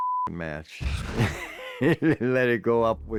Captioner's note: laughs